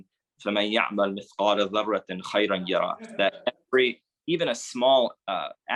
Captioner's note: speaks Arabic